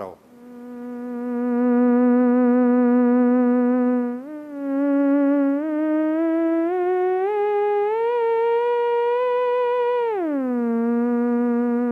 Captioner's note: electronic whirling sounds